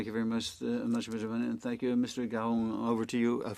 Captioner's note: speaking French